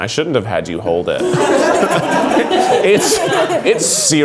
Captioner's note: offscreen laughing